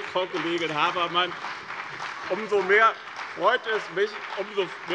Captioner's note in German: Beifall bei dem BÜNDNIS 90/DIE GRÜNEN und der CDU